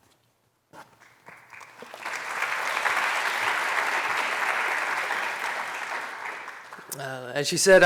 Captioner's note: applause